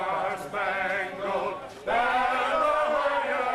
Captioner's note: crowd chanting